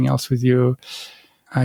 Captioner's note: breath